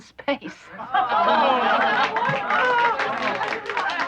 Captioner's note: cheering